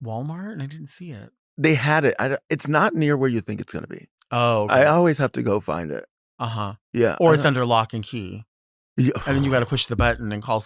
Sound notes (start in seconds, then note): 8.7 Sapphira exhales heavily